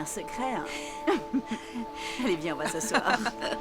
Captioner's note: chuckling